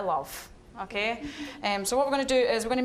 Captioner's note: audience chuckling